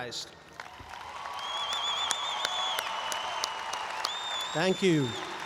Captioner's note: audience applauds and cheers